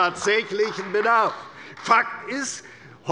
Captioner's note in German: Beifall bei der CDU